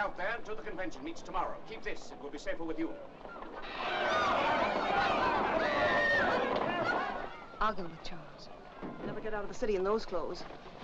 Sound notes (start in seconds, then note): 3.2 bystanders screaming